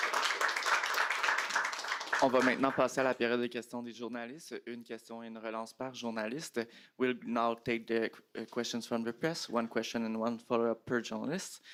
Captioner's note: applause